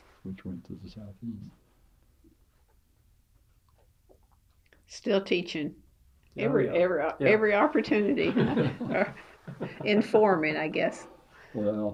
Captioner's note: laughter